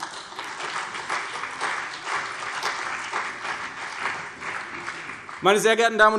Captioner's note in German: Beifall CDU und vereinzelt BÜNDNIS 90/DIE GRÜNEN